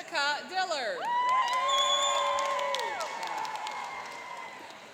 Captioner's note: cheering and applauding